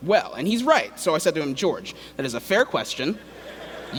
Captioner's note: laughter